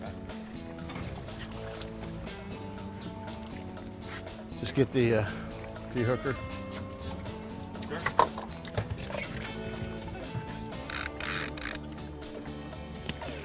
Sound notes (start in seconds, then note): 6.7 splash